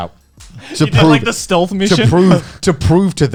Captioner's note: chuckling